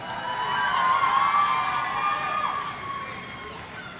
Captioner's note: audience cheering